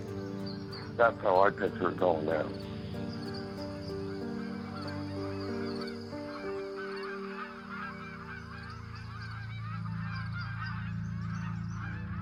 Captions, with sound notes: That's how I picture it going down. (soft unsettled music) (birds calling)